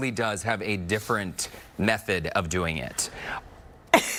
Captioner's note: laughing